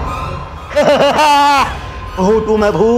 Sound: shouting

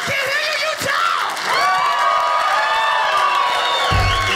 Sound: audience cheers

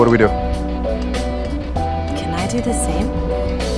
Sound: voiceover

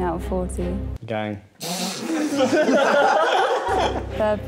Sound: laughing

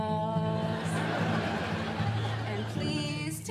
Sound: audience laughing

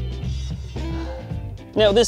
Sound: exhales sharply

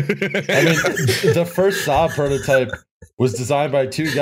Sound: laughter

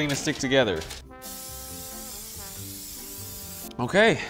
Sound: spray can hissing

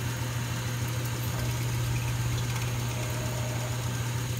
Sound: air hisses, pump gurgles

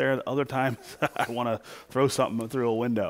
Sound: laughs

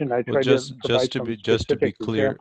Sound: on phone

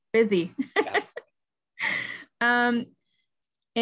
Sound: laughs

